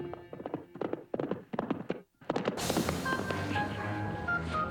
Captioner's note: horses galloping